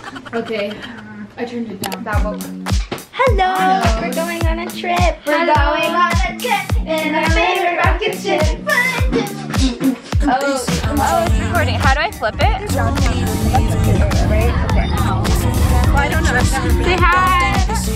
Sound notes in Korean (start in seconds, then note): 6.7 노래 부르는중; 7.8 비트박스 하는중